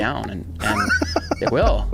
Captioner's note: laughing